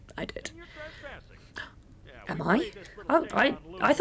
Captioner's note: gasp